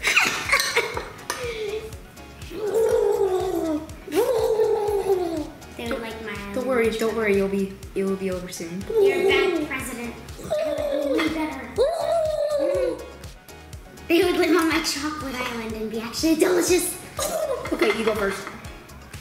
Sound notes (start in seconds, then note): 0.0 laughs; 2.5 gurgles; 10.5 gobbles